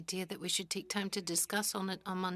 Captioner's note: speaking FRENCH